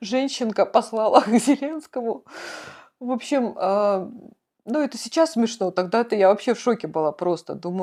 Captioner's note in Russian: смех; тяжело вздыхает